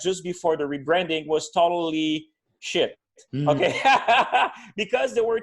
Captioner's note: laughing